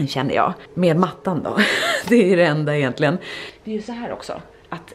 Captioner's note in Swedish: skratt